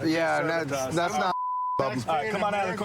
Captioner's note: chatter